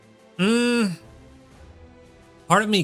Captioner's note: groans